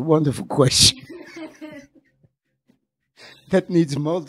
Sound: laughing

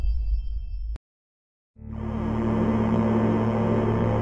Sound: electric hum

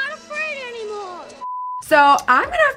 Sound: blooper beeps

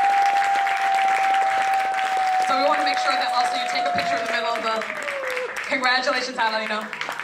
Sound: applause

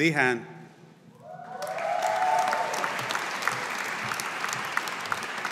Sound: audience applauding

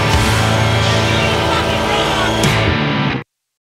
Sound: yelled over music

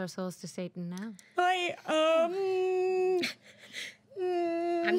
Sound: girl whining

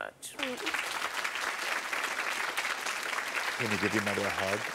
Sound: audience applauding

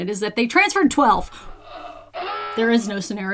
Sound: alarm blaring

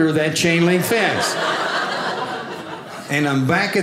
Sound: audience laughing

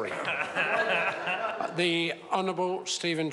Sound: members laugh

